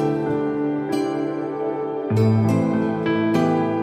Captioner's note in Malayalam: none